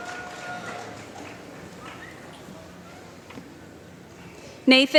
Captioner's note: applause